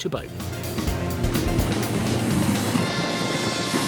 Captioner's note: revving